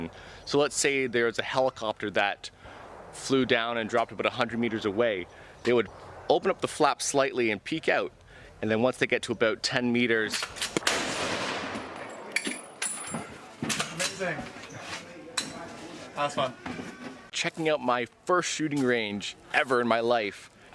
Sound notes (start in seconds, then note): 10.3 gun loading; 10.3 gun firing